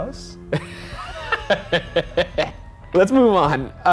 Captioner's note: laughing